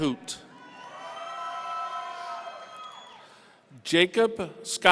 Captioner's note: audience cheering